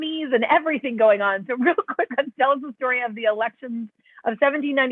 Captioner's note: laughter